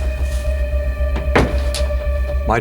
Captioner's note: door closes